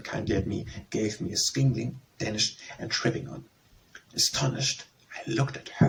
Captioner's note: Danish